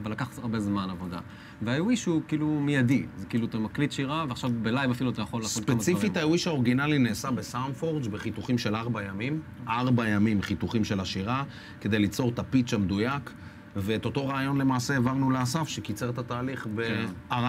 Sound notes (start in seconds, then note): none